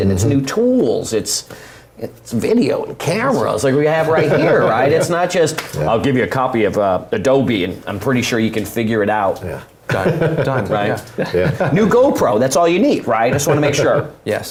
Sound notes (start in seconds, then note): 4.1 laugh